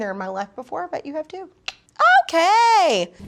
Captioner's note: clicks tongue